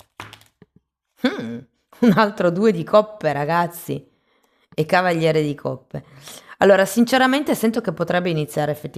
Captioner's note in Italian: risate